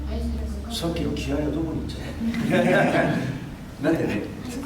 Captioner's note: laughs